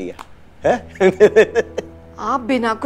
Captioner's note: Prathmesh giggling